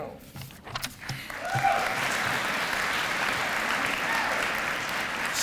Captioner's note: applause